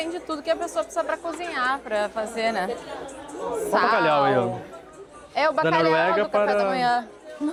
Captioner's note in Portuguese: risadas